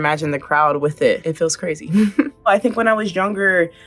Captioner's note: Coco chuckling